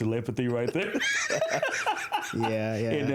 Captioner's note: laughter